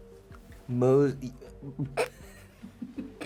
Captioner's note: laughing